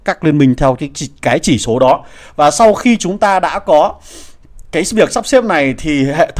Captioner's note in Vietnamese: khịt mũi